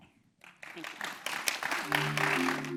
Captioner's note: applause